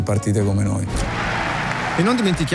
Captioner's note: Rumore proiettore